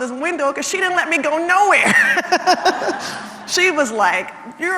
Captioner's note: laugh